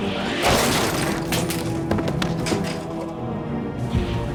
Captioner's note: objects clattering; dramatic music continues